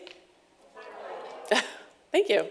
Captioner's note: audience responds